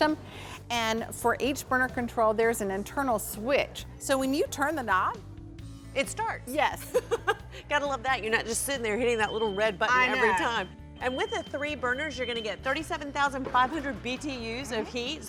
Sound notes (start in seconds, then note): 6.8 chuckles